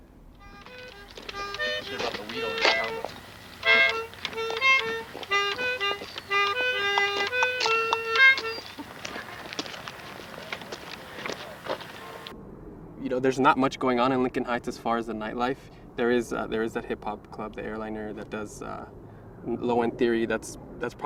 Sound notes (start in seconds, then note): 0.4 sound of melodica playing in the background; 6.7 person chattering in the background